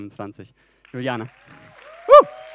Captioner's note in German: Applaus